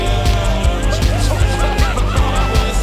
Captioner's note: group cheering